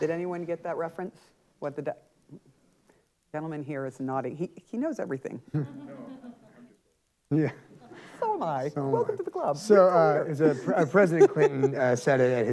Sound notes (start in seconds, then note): 5.7 audience chatter